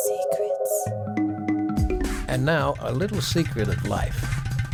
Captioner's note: intriguing music; lady whispering "secrets"